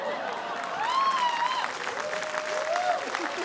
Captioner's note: cheering, applause